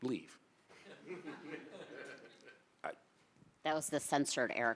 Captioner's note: audience laughing